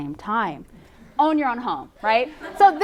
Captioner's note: sarcastically